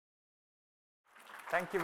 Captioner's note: applause